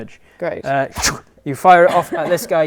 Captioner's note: ptoo